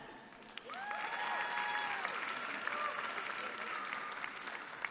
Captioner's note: applause